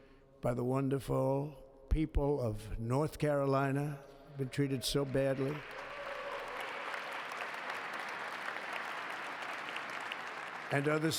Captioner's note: applause